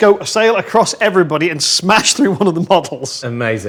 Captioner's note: laughs